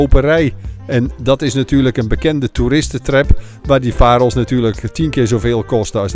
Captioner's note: voiceover